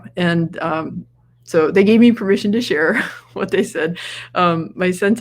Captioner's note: laughs